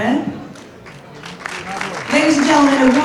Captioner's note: audience applauds